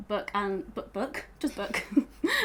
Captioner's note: laughing